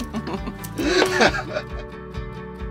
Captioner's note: laugh